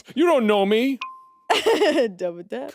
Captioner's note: phone beeps; chuckling